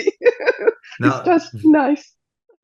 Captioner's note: laughs